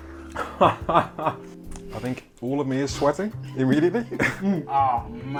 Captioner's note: laughter